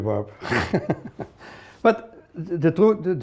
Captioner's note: laughter